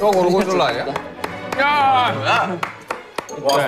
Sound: applause of truth

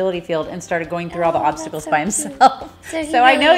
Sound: laughing

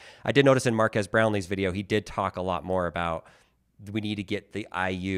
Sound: none

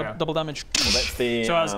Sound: dssch

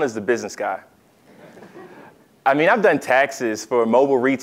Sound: laugh

